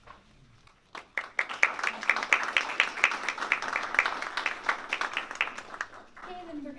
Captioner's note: applause